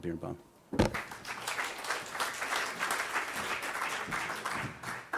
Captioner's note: applause